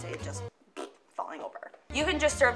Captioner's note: blows raspberry